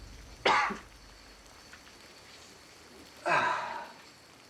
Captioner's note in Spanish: Suspiros